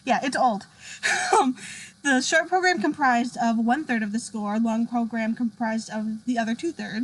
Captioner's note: laughs